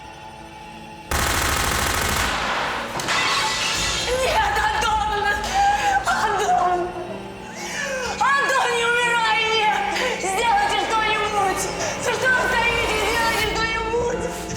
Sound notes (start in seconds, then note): 1.1 gunshots